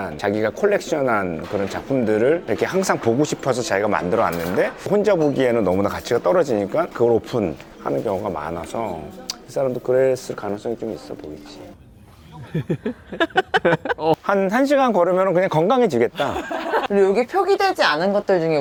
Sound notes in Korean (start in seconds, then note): 12.3 웃음